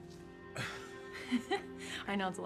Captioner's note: laughing